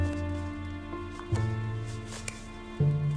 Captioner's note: scoffs